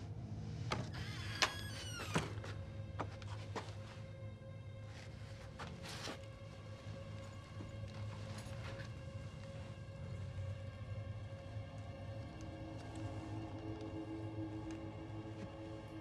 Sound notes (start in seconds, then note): none